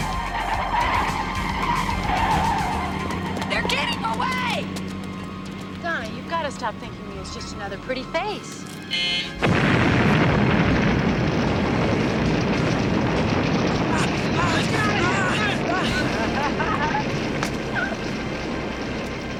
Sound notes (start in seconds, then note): 0.3 tires squealing; 8.8 buzzer beeping; 9.8 booming explosions; 13.8 men groaning; 15.6 ladies laughing